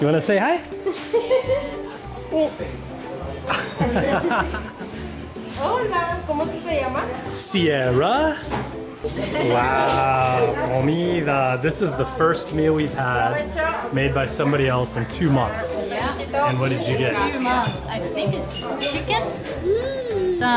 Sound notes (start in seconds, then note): 1.5 chuckling; 3.5 laughing; 6.0 woman speaking in foreign language; 8.6 speaking in foreign language